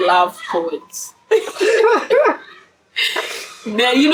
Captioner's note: laughs